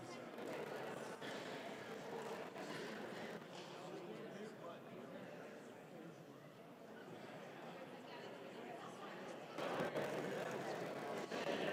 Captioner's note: applause